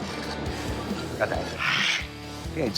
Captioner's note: mimics metal screeching